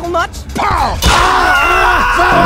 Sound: screams

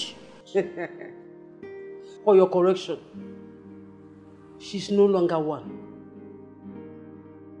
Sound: laughs

